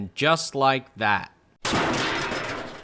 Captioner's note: crash